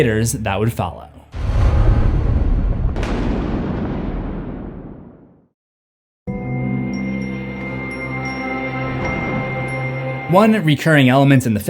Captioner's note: thunder